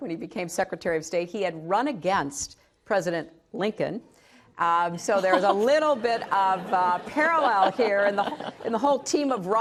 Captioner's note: laughter